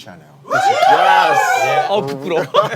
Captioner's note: Staff cheering for Gucci and Chanel